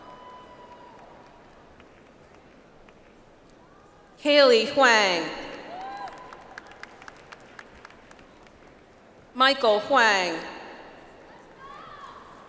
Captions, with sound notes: Kaili Huang. (audience applauds) Michael Huang.